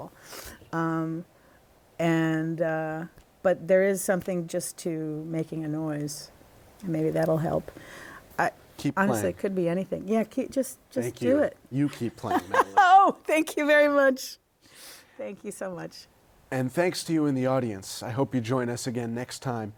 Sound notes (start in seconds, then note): 12.2 laughter